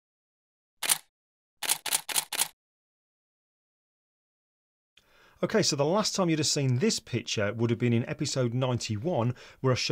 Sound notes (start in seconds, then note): 1.6 camera shutter clicking